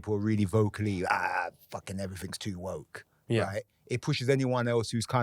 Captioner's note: grumbling